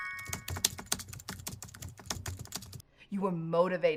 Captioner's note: typing noise